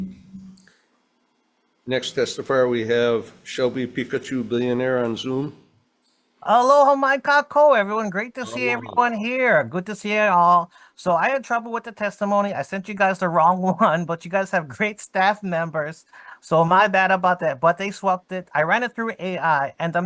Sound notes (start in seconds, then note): 6.6 speakings foreign language